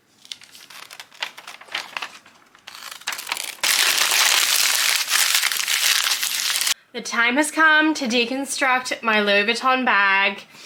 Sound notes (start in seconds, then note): 0.2 paper crunches and scissors cut; 3.9 more paper crunching